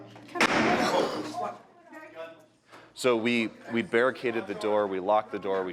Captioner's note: sound of gunfire